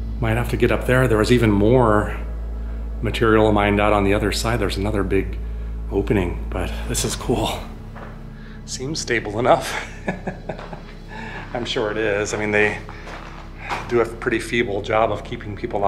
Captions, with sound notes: Might have to get up there. There was even more material mined out on the other side. There's another big opening but this is cool. Seems stable enough. [laughs] I'm sure it is. I mean they do a pretty feeble job of keeping people